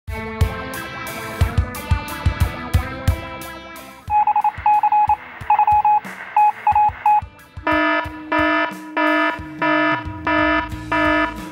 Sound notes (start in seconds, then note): 4.0 morse code; 7.6 alarm